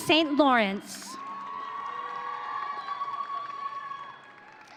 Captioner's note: audience cheering